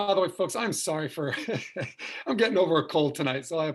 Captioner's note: chuckles